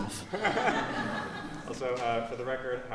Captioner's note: laughter